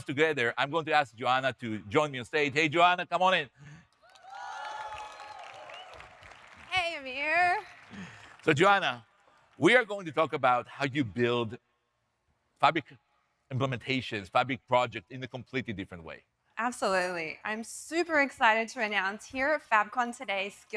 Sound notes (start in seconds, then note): 4.0 audience cheering